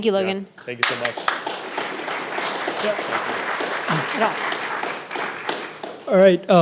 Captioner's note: audience applauding